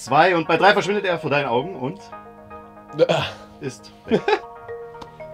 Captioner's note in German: lacht